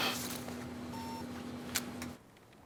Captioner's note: alarm